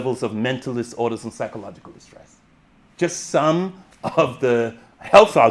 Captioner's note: chuckles